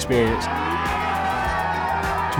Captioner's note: splashing